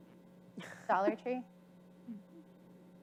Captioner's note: chuckles